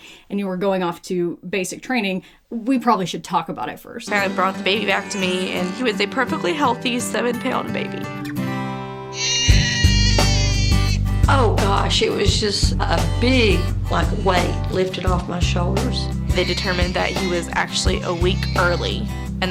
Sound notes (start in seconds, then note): 9.1 baby cries; 9.1 upbeat music